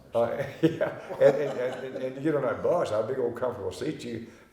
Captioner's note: chuckling